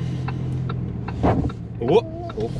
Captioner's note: car hits ground